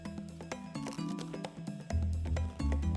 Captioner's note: bites into bread